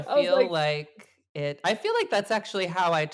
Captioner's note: laughs